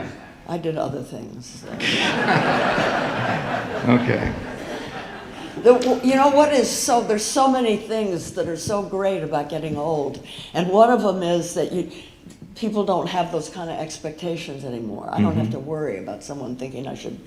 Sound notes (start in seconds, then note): 1.7 audience laughing